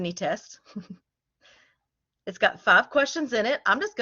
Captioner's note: laughter